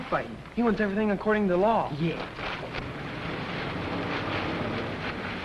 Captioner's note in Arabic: محرك الشاحنة